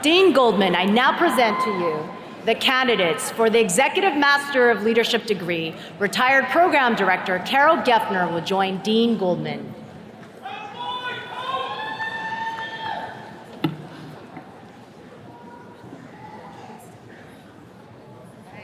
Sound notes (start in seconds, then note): 10.5 attendees cheering